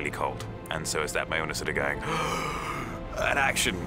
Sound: gasps

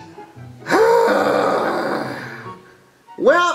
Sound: groans

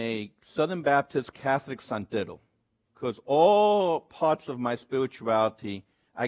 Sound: speaks Spanish

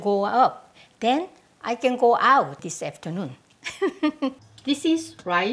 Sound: laughs

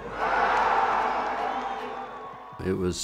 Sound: cheers

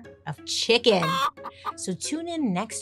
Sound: chicken clucking

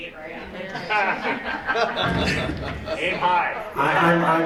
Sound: laughter

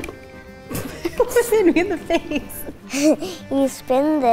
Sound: laughs

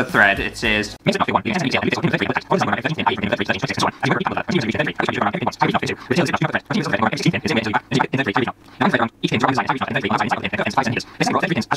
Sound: fast-forward Voice

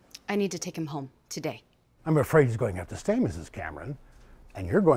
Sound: none

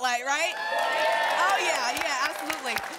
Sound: cheering

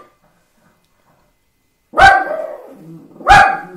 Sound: dog barks

